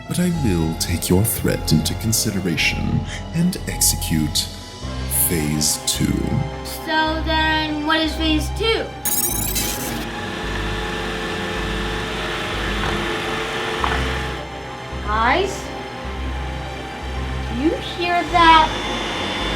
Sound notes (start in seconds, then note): 9.0 electronic whirring